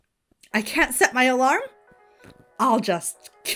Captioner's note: ringtone continues playing